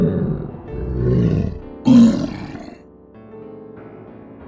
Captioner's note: warped voice; growling